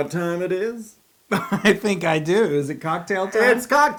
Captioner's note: laugh